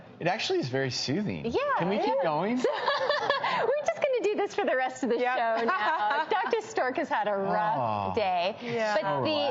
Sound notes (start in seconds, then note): 2.6 laughing